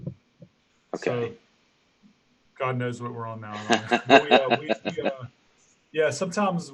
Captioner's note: laugh drowns out voice